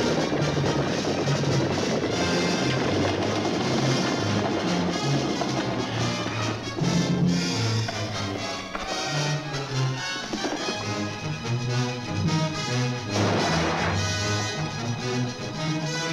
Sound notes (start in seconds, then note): 13.0 vase crashes